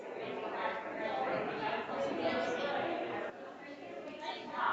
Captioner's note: all chattering